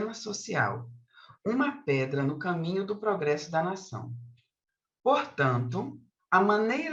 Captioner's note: continues speaking in Portuguese